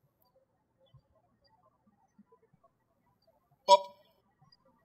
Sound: birds chirping

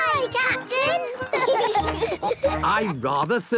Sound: laughing

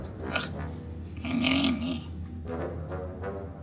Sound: Mr Grumpy grunting; whimsical music

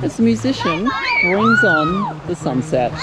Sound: children chatter; children scream

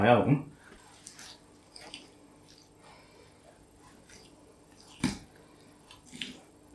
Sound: silence, really

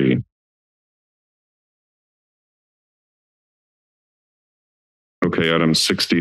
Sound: silence

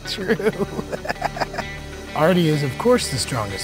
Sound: laughs

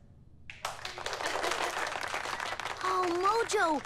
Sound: all clapping

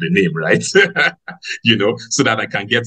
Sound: laughs

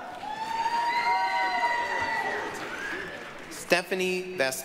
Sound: applause, cheering

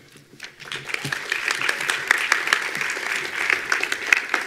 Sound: attendees applauding

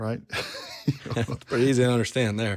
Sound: all laugh

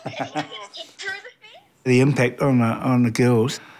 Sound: laughs

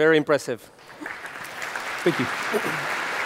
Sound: applause

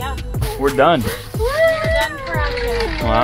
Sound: moaning

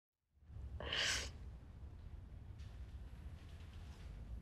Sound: sniffling

